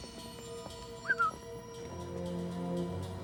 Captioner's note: whistle